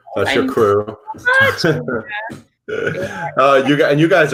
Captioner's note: laughs